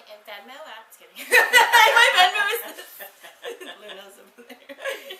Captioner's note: both laughs